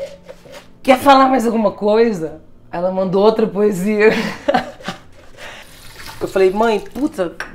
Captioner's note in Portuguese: risos